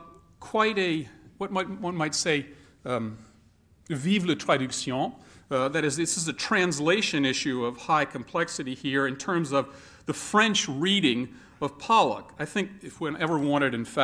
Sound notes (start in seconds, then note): 3.8 speaking french